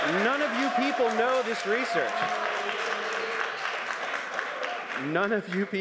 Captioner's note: crowd noise